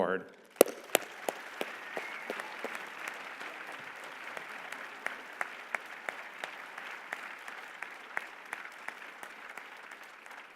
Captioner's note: applause